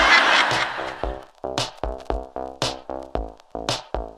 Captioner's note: audience laughter